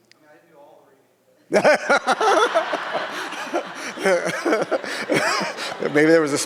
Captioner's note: laughing; audience laughs